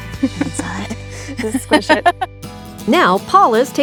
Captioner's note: chuckles